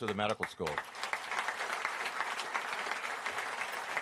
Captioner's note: applause